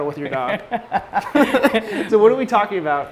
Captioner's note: laughs